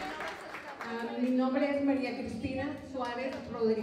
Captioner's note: non-english speech